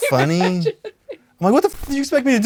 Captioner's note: Kris laughs